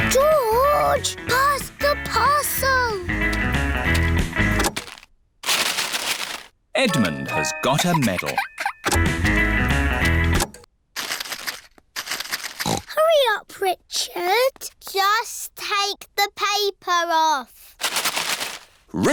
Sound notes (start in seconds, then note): 4.6 music stops; 10.5 music stops; 12.5 snorts